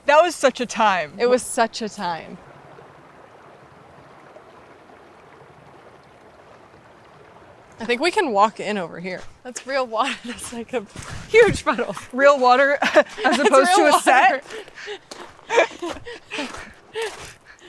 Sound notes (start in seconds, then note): 3.4 water sloshing; 15.4 both giggling